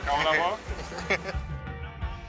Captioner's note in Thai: หัวเราะ